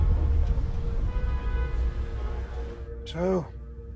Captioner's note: car engines revving; car horns honking